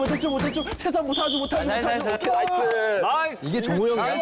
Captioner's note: beep